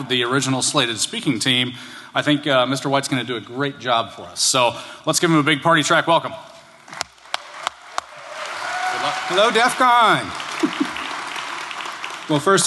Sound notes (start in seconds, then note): 7.1 applause